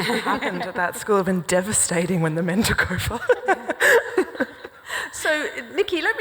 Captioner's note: laughs